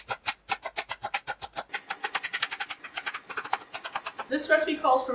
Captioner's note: high speed chopping vegetables